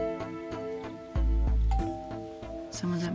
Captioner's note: doorbell ringing